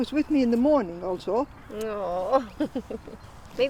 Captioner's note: laughs